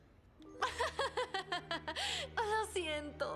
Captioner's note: laugh